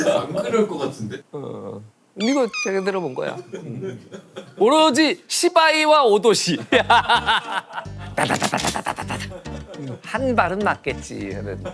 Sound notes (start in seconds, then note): 6.7 laughing